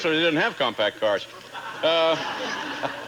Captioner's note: audience laughing